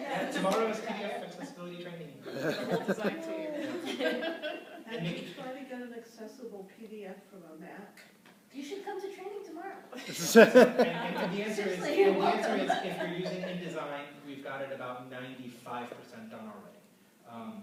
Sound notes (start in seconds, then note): 3.5 laughter; 9.9 laughter